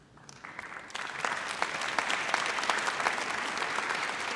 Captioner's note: audience applauds